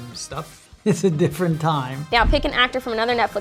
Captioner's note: laughing